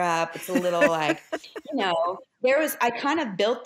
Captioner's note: laughs